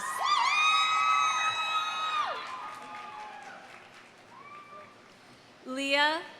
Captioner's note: audience cheering; audience applauding